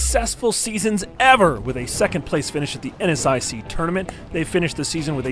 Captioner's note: fire crackling